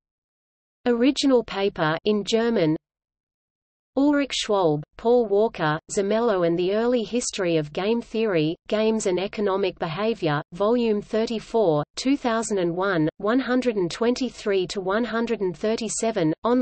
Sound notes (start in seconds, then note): 2.4 in German